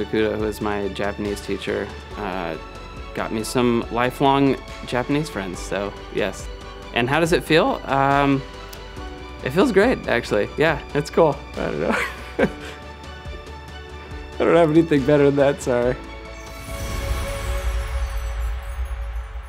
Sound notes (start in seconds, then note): 11.7 laugh; 16.4 music fades out